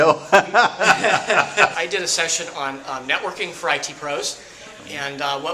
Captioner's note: laughter